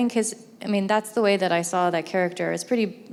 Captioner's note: none